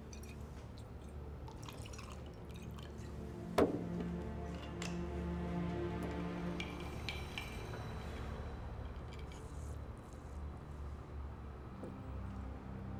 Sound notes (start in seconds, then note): none